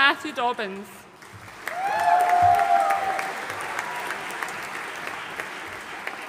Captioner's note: audience cheering and applauding